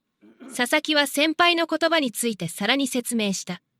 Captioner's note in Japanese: 咳払い